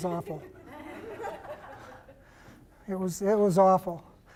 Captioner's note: laughter